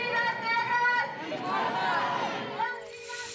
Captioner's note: woman chanting in foreign language; protestors chanting in foreign language; woman chanting in foreign language